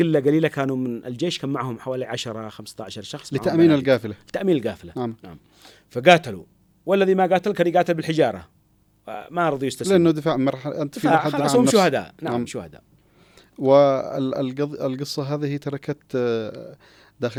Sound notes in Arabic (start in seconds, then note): 10.9 ضحك